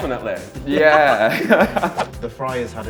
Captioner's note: laugh